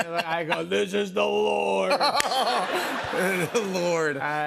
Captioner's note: laughter